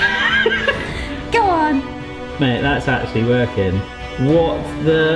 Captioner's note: hearty laughter; dramatic music